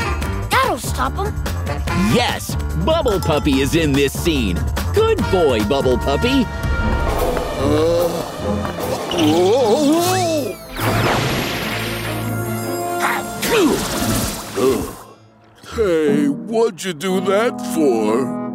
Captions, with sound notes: That'll stop him! Yes, Bubble Puppy is in this scene. Good boy, Bubble Puppy! Whoa! [sneezing] Hey, why'd you do that for?